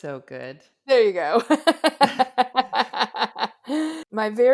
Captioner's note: laughs